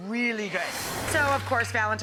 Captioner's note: whoosh